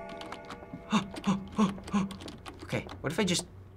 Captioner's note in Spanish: Jadeo nervioso